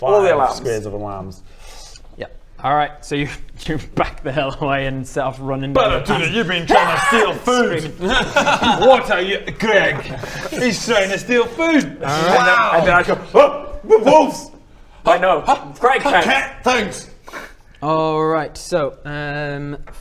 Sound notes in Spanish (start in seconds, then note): 6.6 aaaaaaaaaargggghh